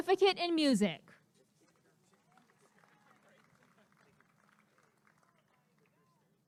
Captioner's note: applause and cheering